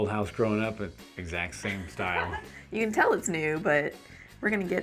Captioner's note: laughs